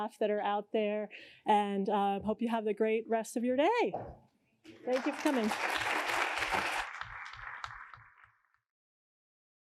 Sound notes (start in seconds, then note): 4.7 applause